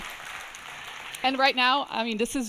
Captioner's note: audience applauding